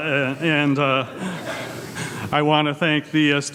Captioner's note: audience laughs